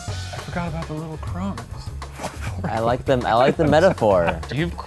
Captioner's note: laughs